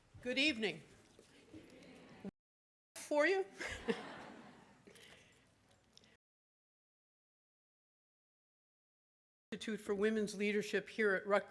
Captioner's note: audience laughing